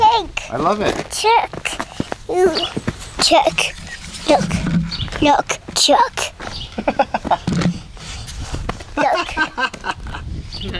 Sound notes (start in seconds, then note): 6.6 narrator laughing